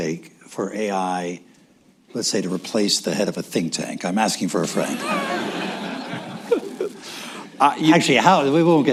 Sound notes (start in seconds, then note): 4.8 laughter